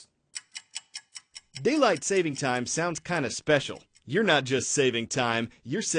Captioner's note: voice-over